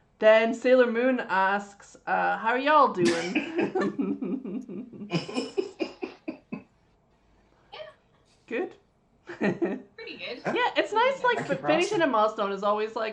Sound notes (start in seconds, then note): 3.0 laughs